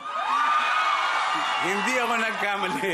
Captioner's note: screaming